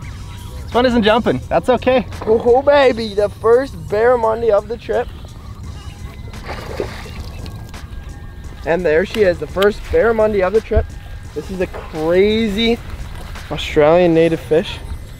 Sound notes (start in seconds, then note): 6.2 splashes